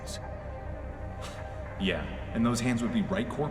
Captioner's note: scoff